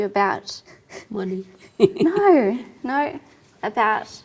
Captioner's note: laughs